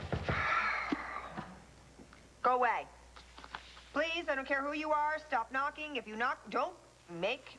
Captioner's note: knock on door